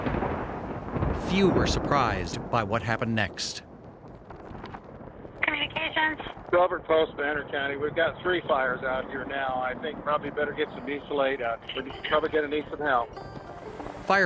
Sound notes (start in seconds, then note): 0.0 thunder rumbling; 4.7 fire crackling